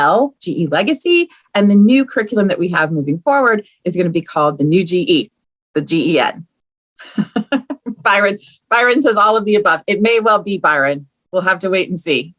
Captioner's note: laughs